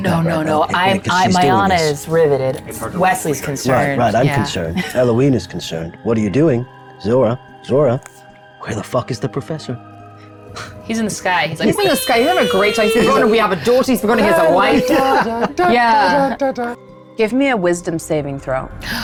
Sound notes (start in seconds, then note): 14.2 humming; 15.4 laughs